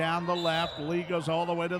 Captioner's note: referee whistling